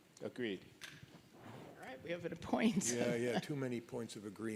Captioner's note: laughs